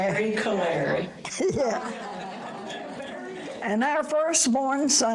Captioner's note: audience laughter